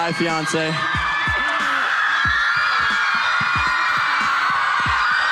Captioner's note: crowd cheering